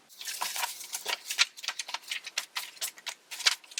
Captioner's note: pages flicking in fast forward